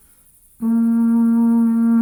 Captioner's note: none